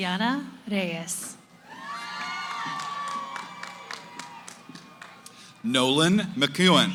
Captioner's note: cheering